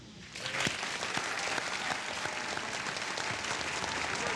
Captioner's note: applause